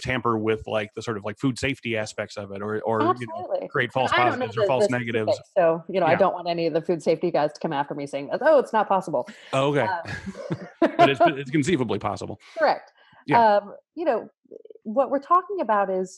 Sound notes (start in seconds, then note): 9.2 laughing